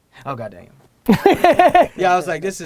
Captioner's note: Gary laughs